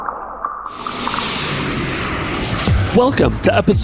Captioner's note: air whooshing